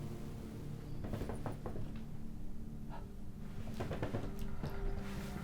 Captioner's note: light clattering